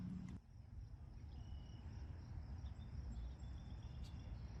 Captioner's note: more birdsong and insects trilling